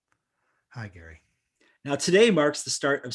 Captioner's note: sighs